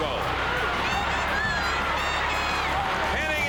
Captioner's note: crowd cheering